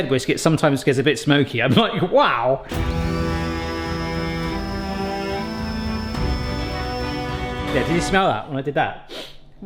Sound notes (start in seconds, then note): 2.6 mixer whining; 2.6 dramatic music; 9.4 sniffs